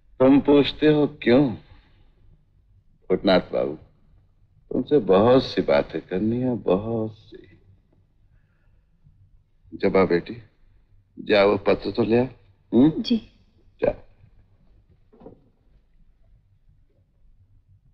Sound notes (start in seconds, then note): none